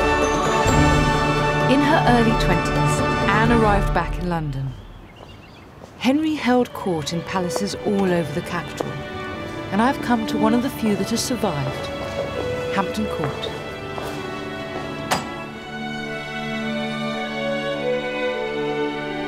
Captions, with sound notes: - In her early 20s, Anne arrived back in London. (birds chirp) (heels clack) Henry held court in palaces all over the capital, and I've come to one of the few that has survived, Hampton Court. (door opens) (moving instrumental music)